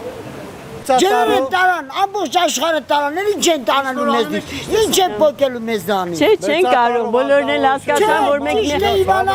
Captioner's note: man arguing